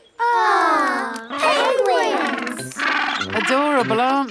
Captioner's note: penguins chatter